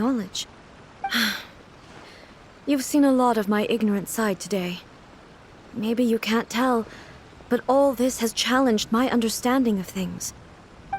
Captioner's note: sigh